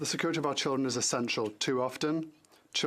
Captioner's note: speaking French